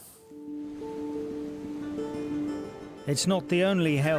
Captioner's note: gentle music; waves roaring